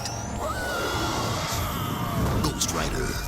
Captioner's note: eerie soundscape; screams